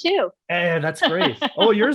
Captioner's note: laughing